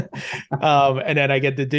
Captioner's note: speakers laughing